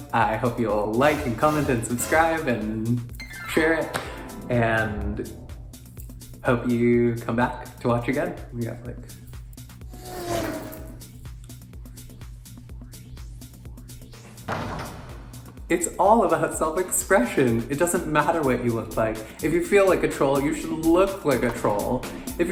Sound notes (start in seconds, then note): 10.1 car engine roars; 13.4 upbeat electronic music; 14.4 objects slamming